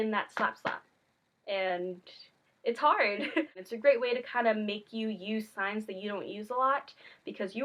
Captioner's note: slap slap